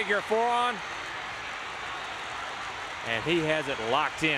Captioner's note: crowd cheering